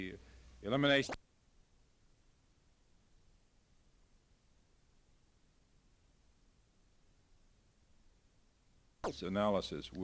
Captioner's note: silent